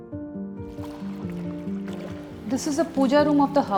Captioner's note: water lapping